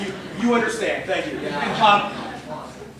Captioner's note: laughter